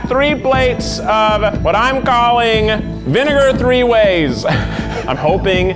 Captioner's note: laughs